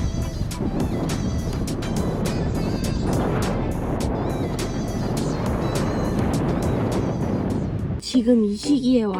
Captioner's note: the incredible sound of the wind is a bonus